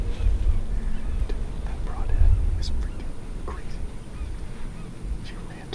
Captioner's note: whispering